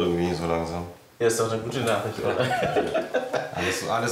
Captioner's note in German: lachend